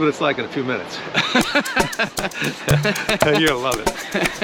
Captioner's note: Brian laughs